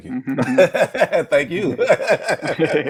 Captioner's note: group laughs